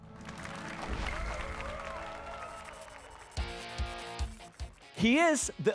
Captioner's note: applause and cheers